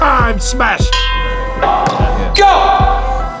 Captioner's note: bell ringing